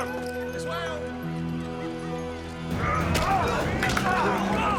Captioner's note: all grunting